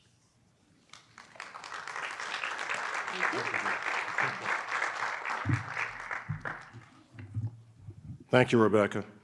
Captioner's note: audience applauding